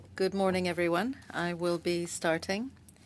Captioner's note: speaking French